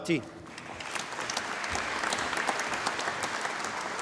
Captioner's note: applause